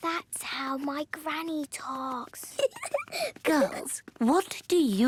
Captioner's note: giggling